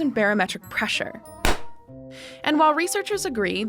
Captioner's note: popping